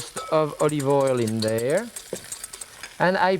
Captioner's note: whisk clinking